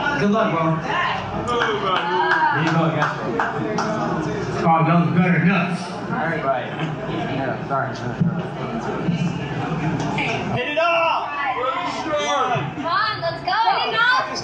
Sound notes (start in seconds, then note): 0.8 crowd heckling; 6.7 awkward chattering